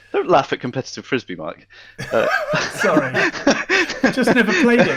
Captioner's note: laughing